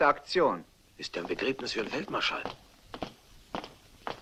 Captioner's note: whispers